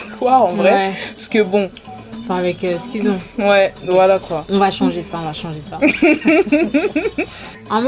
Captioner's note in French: rires